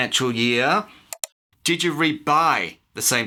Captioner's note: click